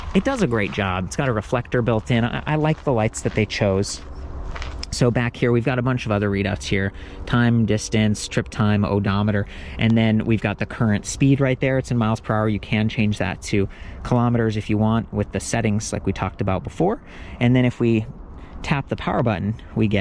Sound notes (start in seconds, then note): none